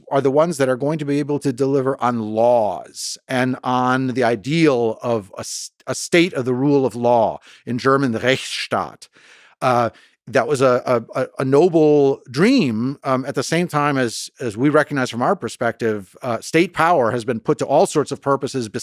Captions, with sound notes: are the ones that are going to be able to deliver on laws and on the ideal of a state of the rule of law, in German, the (speaking in German), that was a noble dream, at the same time, as we recognize from our perspective, state power has been put to all sorts of purposes